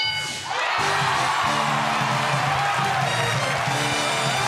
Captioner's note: cheers and applause